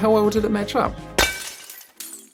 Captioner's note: sound of glass shattering